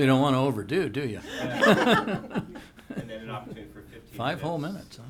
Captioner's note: laughing